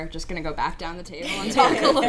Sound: laughter

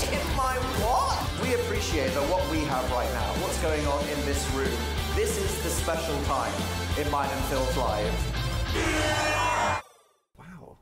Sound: airhorn

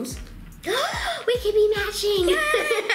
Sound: gasping; laughing

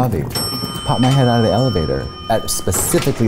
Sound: elevator bell dings

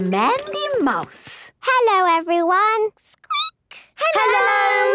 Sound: squeaking

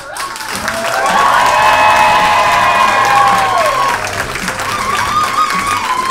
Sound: audience cheers and applauds

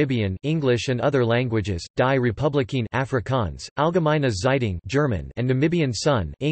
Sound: German

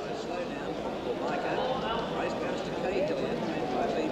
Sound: crowd chattering

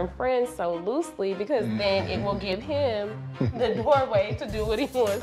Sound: chuckling

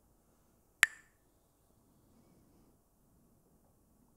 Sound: Mooji clacks the sticks

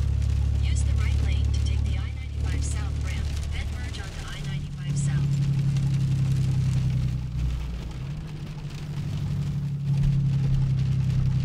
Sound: GPS speaking

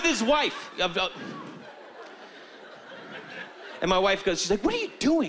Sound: stammering

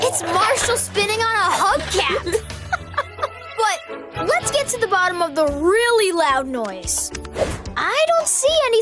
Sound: laughs

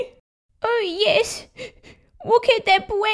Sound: sniff! Sniff!

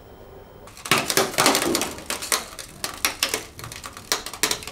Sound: computer crackles

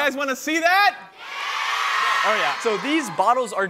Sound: crowd

